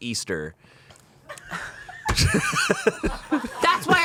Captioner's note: everyone laughs